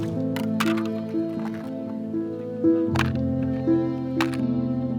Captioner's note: dramatic music; metallic clanking